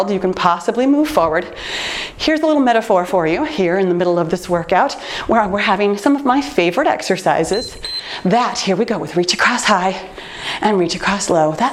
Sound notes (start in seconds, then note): 7.4 timer beeps